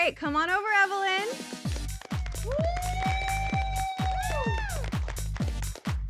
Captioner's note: cheering